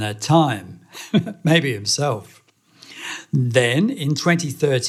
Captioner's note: laughing